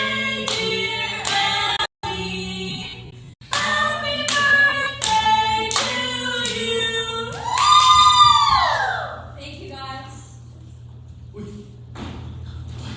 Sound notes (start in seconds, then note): 7.4 cheering